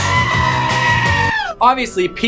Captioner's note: goat screams